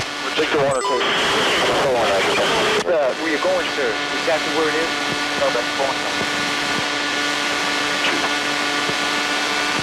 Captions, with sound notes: - We'll take the one that's close. - 4-1, roger that. - Sir, we're going, sir. Exactly where it is, over. Going... [plane noise]